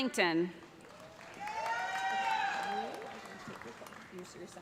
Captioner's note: cheers and applause